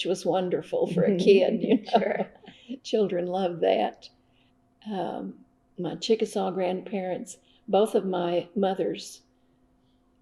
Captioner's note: laughter